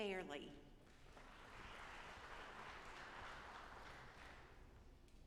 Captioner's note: audience applauding